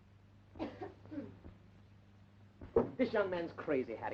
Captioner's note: throat clearing